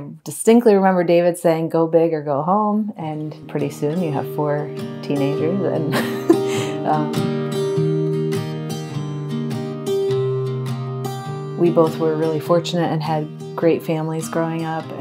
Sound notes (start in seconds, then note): 2.9 mellow music begins; 5.9 chuckles